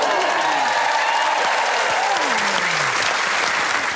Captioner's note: applause